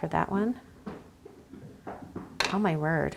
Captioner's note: steps clattering